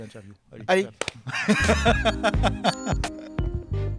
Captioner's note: laughs